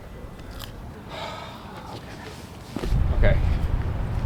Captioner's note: sigh